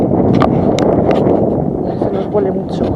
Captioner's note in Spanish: viento